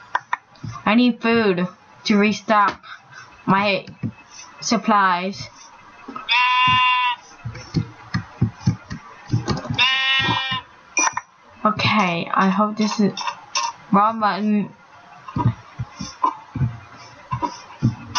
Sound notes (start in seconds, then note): 4.4 baa